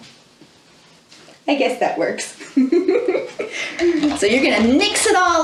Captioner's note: laughs